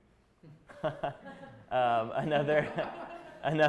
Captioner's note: chuckling